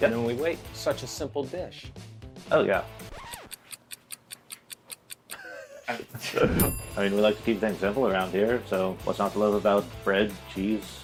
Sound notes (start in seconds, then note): 3.4 clock ticking; 5.3 laughter